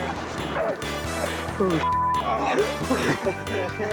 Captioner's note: beep; kid laughing